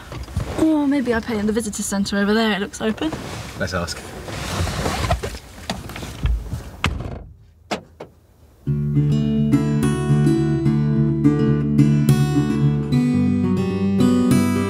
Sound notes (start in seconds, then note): 5.6 car door opens and closes; 8.6 gentle acoustic guitar